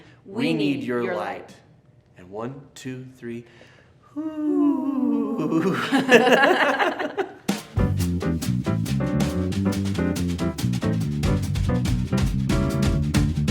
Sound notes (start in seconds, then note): 5.3 laugh; 7.5 fast happy music